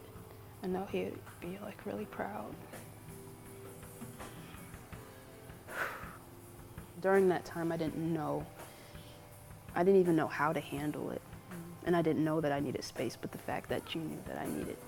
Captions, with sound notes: me too, but I know he'd be, like, really proud. (sighing) During that time, I didn't know... I didn't even know how to handle it. And I didn't know